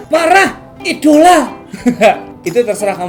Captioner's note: scoff laughter